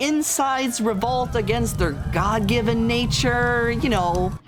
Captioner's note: people screaming sfx; police sirens and panic sfx